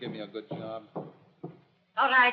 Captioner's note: footsteps